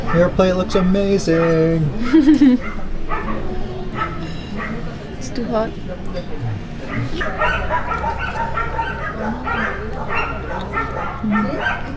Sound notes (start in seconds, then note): 1.8 giggles; 7.0 dogs barking